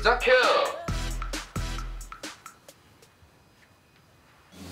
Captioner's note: set becomes silent